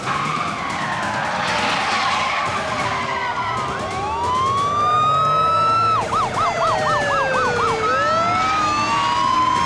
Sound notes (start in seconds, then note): 4.0 sirens wailing